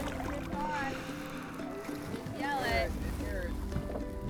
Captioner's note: background conversation